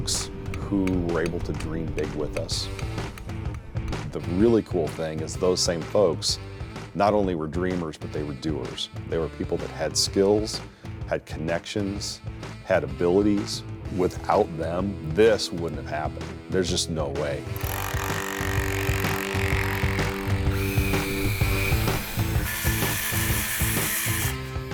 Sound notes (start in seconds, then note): 17.5 drill vibrates; 20.2 saw rattles